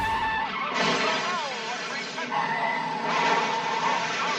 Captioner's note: crash